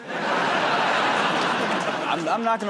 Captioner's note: laughter